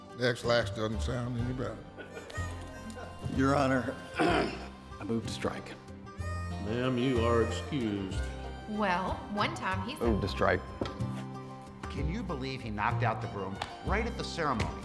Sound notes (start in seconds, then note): 1.9 court chuckling; 4.1 clears throat